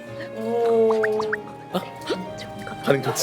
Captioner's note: whispering